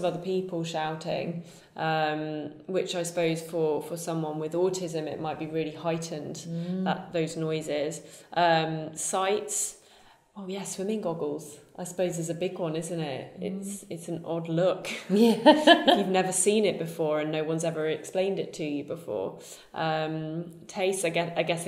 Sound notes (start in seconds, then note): 15.1 laughs